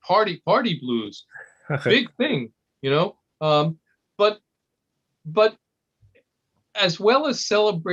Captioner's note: laugh